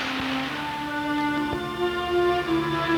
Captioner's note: waves crashing